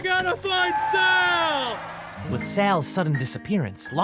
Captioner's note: tires screech